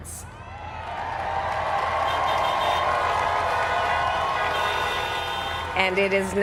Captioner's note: cheers